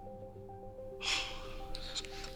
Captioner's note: Raheem laughs